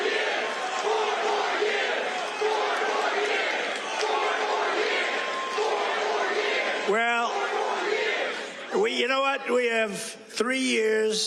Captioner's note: cheers; chanting four more years